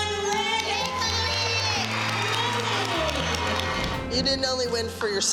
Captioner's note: cheering and applause